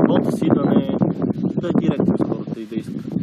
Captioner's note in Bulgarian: чува се вятър